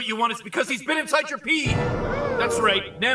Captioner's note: audience gasps